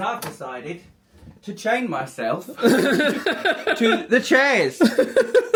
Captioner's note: laughing